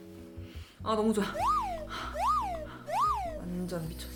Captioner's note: can’t stop sniffing